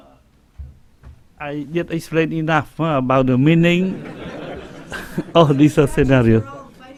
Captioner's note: laughing